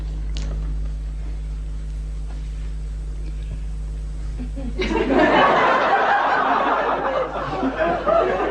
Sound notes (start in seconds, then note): 4.4 laughter